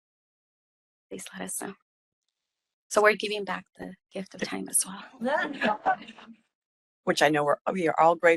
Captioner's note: laughing